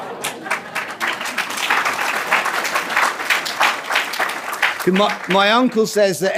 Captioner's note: applause